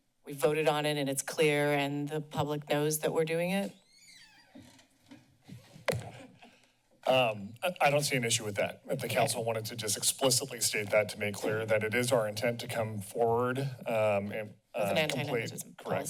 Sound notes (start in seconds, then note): 3.7 door squeaks; 5.5 thud